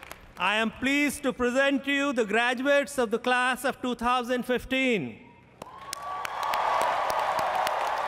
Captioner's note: applause